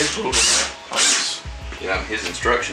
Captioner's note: drill whirring; instrumental music